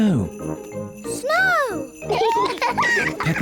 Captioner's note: both giggle